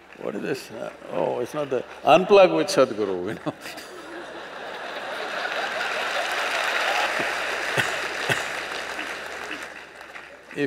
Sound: laughter/Applause

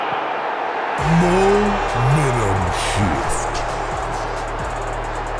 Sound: robot voice

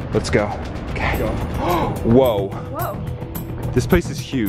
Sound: gasp

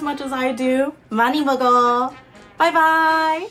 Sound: speaking foreign language

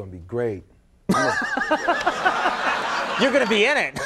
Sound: audience laughing

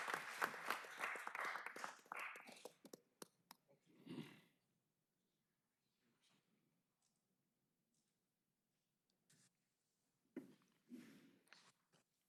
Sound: applause

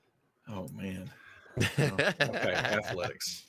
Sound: laughing

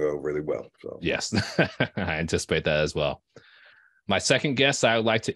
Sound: chuckling

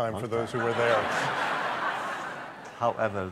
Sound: laughter

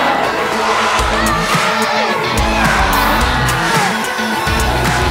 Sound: audience cheering

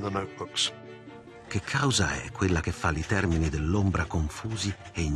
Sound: speaking Italian

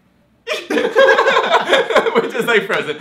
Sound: laughing

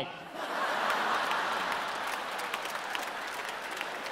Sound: audience laughing

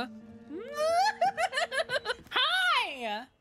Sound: fearful Noises

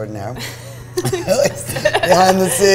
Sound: laughs

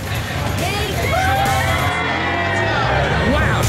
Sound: cheers

